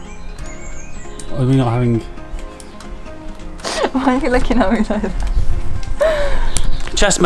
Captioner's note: laughing